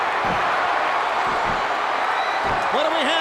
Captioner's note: crowd cheers